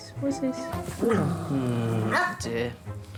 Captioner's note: dog growls